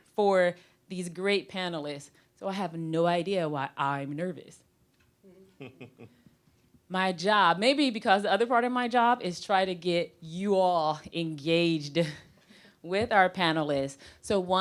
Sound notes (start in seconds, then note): 5.4 scattered chuckling